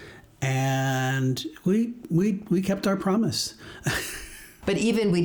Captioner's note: laughs